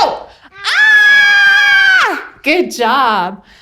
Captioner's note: everyone screams